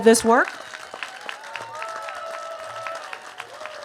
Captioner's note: cheers and applause